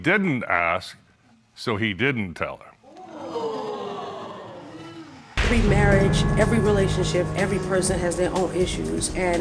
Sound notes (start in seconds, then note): 3.0 audience exclaiming